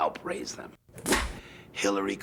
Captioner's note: clapperboard clap